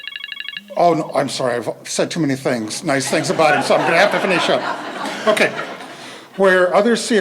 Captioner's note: phone rings; laughter